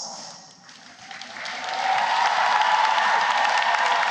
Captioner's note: cheering and applause